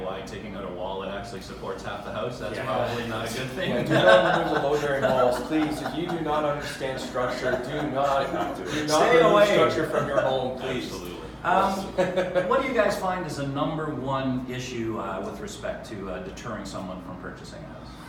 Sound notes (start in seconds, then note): 3.8 laughs